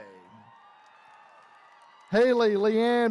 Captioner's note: attendees cheering